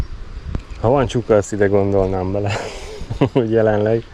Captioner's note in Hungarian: nevetés